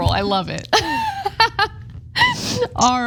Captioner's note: laugh